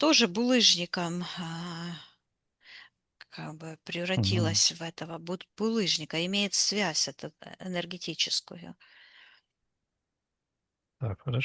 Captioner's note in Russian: вздыхает